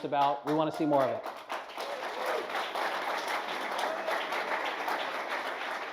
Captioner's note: applause